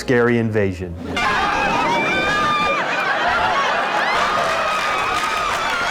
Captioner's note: civilians screaming in fright